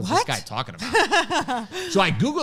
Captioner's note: laughs